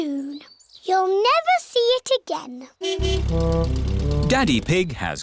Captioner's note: horn honking